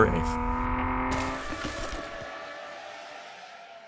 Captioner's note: engine revving